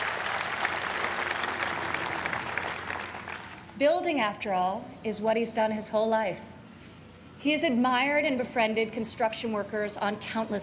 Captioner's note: applause